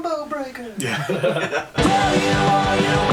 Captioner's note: laughs